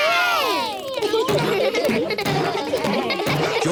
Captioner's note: kids laughing